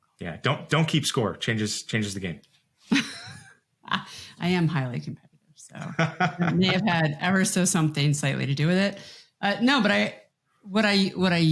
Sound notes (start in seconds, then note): 3.5 laughs; 5.8 laughs